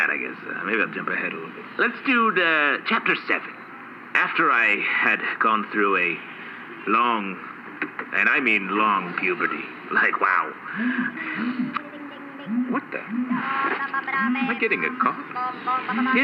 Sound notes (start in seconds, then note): 13.0 faint buzzing